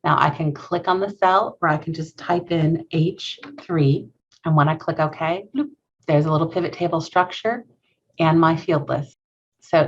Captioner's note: bloop